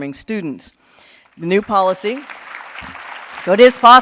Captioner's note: audience clapping